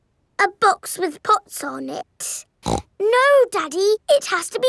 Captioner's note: snorts